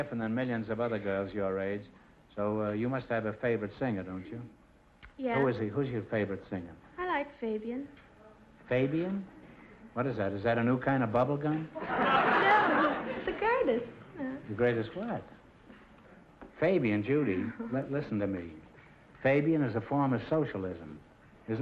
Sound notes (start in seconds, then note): 11.8 audience laughter